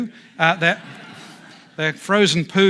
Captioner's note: audience laughs